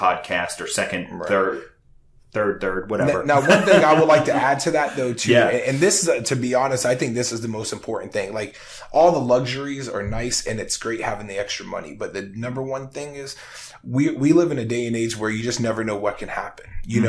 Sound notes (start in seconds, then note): 3.0 laughing